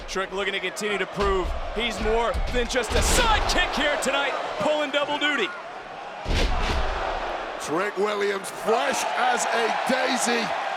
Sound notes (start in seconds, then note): 6.1 wrestlers thudding